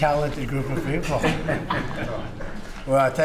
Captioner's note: laughter